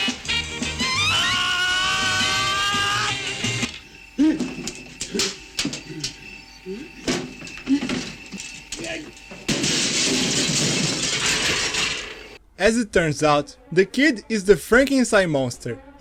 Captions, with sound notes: *Orgasmic scream* As it turns out, the kid is the Frankenstein monster,